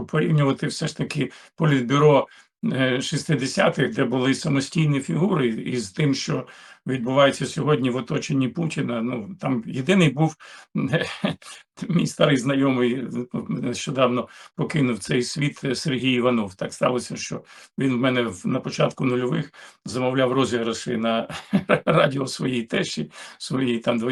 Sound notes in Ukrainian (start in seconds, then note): 10.8 сміх